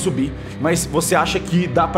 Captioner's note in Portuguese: none